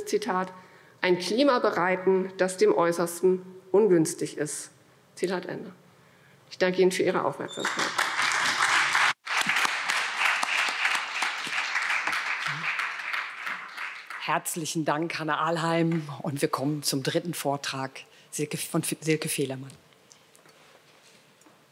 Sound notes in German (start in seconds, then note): 7.6 Beifall